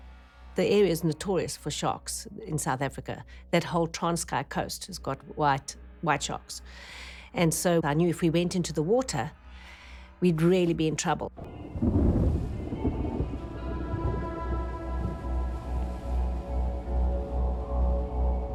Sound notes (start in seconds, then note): 11.4 thunder rumbling; 11.5 grim music playing